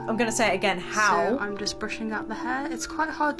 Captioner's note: woman's Voice